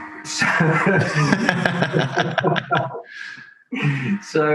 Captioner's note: both laugh